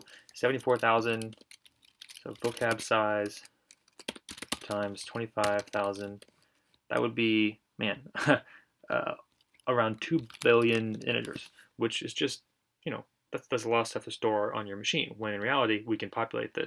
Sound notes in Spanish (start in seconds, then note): 8.1 risas